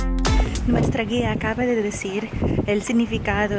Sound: Spanish

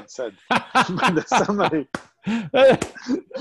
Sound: laughs

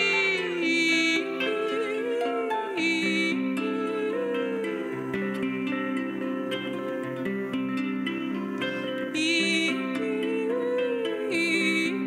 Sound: vocalisations

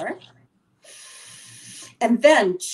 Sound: inhaling

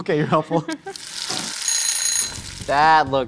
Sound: kitchen timer buzzing

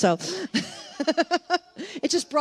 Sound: laughs

